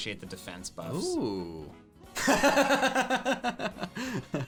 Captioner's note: laughs